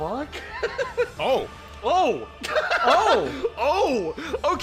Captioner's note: surprised